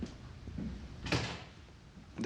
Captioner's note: door slams shut